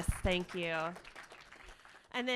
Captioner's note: applauding